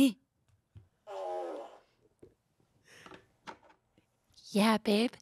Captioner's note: fart machine farts